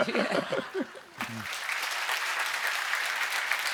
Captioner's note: laughter; applause